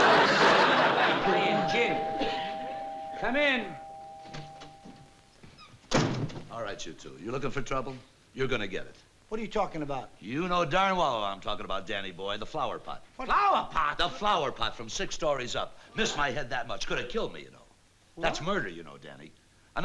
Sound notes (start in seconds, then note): 1.2 doorbell rings